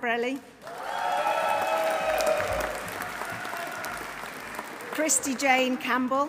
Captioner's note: audience applauding; audience cheering